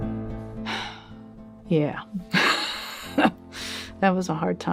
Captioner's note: woeful music; sighs; laughs